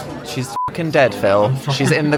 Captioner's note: beep